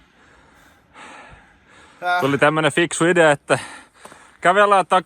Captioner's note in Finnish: huokaisee